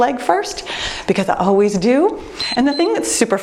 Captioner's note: timer beeps